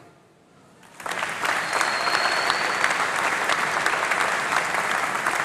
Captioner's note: applause